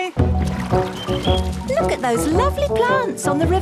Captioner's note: chirping